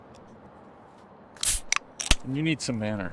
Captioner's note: beer opening